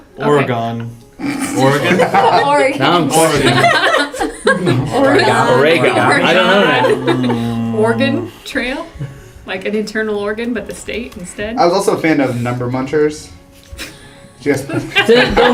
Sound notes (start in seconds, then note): 3.2 laugh; 14.7 laugh